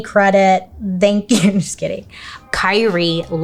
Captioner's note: laughs